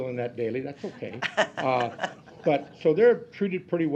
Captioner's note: laugh